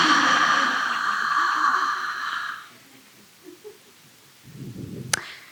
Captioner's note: Wheat sighs contentedly